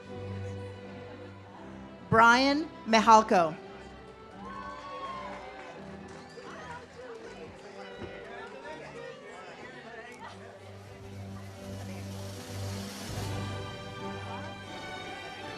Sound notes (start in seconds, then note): 6.6 audience cheers; 10.6 ceremonial music